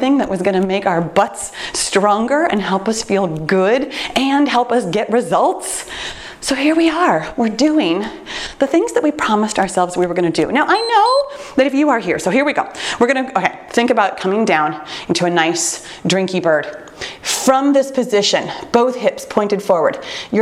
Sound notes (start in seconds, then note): 10.6 timer beeps